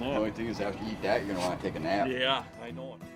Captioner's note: voiceover